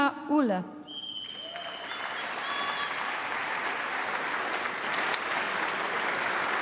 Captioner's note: applause